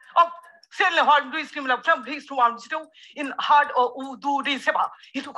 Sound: speaking gibberish

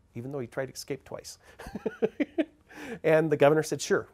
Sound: laughing

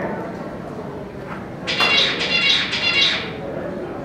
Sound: bird song

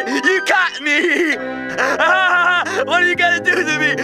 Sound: laughs

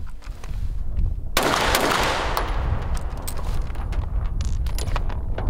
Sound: pistol gunshots continue

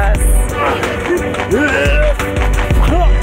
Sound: grunt

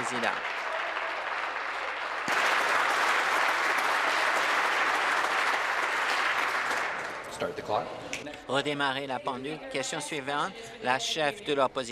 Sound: applause

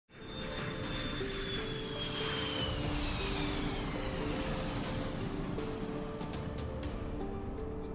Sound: aircraft taking off

